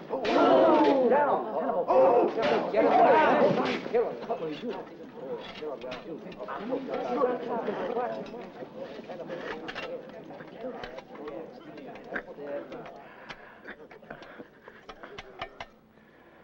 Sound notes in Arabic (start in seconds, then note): 0.1 الحشد يلهث ويثرثر بحماس; 3.9 ثرثرة الحشد المتحمّس